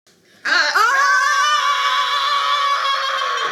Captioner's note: screaming